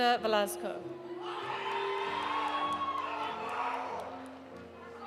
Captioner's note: audience cheering; audience applauding; audience shouting in foreign language